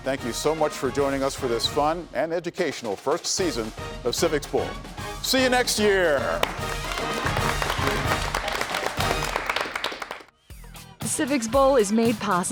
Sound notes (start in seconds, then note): 8.6 applause